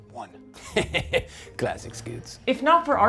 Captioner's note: laughs